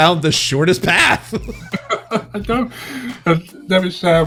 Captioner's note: laughs